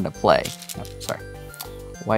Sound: stones rattling

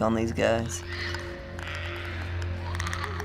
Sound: Clickers croak faintly

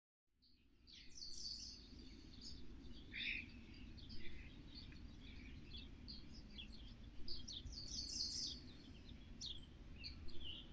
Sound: birds Chirping

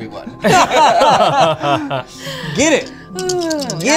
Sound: laughter

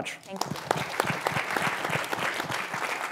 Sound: applause

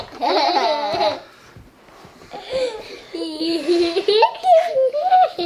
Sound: laughing

